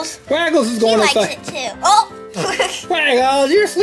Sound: laughs

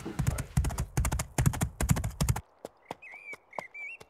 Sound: horse's hooves galloping

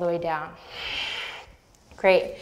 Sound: deep breath

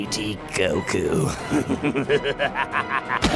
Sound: maniacal laughter

